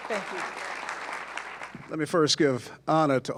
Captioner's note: applause